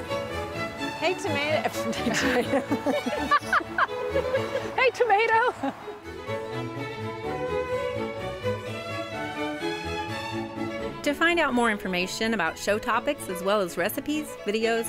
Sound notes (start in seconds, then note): 1.7 laughing; 5.9 symphonic music continues